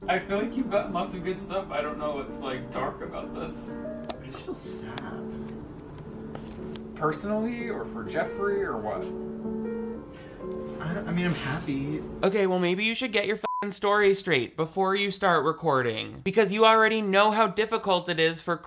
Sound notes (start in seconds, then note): 13.4 beep